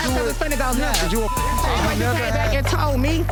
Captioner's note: beep